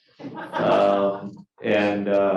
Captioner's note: class laughing